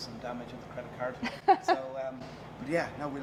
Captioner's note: laughing